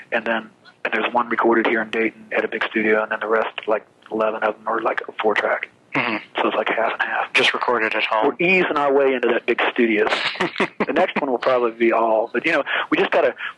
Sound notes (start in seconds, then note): 10.0 laughs